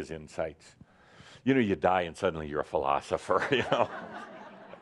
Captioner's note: laughter